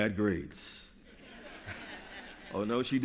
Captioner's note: laughter